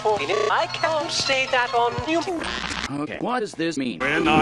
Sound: scrambling noises

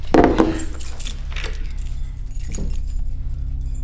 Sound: keys jingling

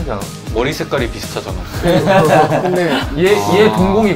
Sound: laughing

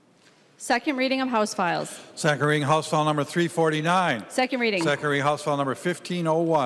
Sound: gavel

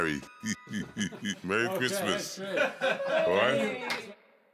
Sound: chuckles

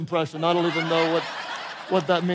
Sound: congregation laughing

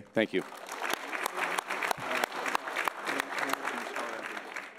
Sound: audience applauding

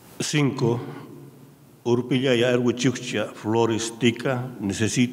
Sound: speaking in a foreign language

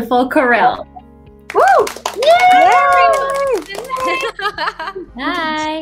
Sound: cheering

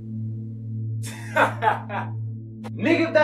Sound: dramatic music; Kansas laughing

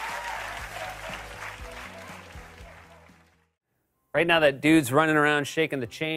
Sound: laughter; normal voice; cheering and applause

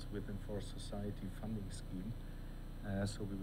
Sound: speaking softly

